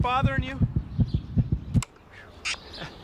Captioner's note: beating stops; chuckles